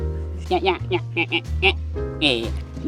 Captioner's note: duck croaking